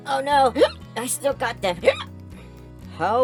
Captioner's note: hiccup; hiccup